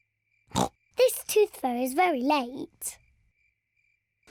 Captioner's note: oinks